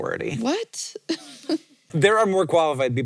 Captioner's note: chuckles